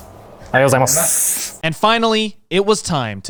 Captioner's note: speaks Japanese